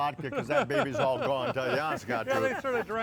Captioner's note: laughing